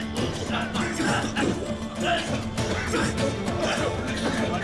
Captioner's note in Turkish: Öksürme sesi